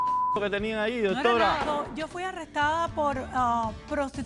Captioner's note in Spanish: Bip